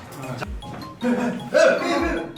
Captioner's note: agitated